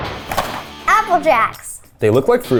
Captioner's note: animated explosion booming; cereal box thudding